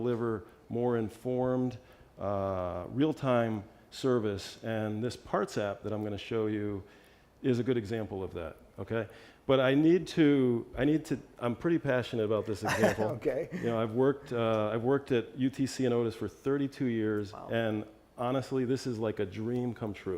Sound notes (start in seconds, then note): 12.6 laugh